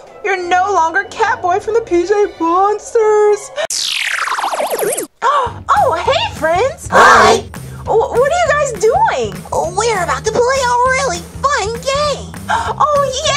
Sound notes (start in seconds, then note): 3.8 bouncy comical music; 7.1 crowd